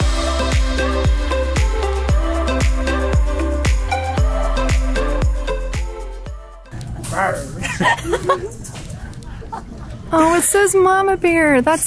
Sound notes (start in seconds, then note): 0.0 upbeat music; 7.5 laughing